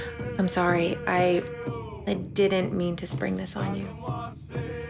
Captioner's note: voices chant; drums beating; sighs